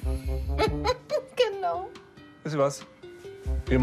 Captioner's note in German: lachend